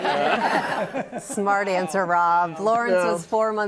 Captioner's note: laughs; laughter